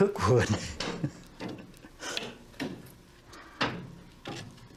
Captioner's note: laughs